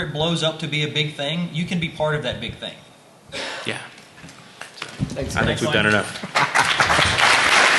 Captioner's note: applause